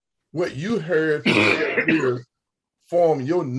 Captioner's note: someone coughs